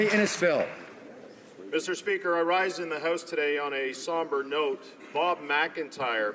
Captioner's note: applause